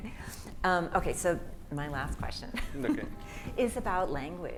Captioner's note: laughs